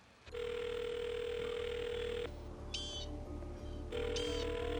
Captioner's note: telephone rings; ring